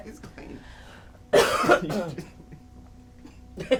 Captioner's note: coughing; laughing